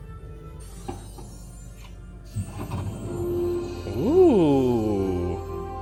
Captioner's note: door twinkling